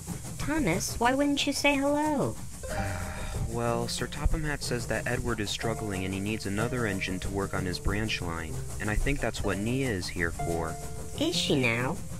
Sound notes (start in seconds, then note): 2.8 rough sigh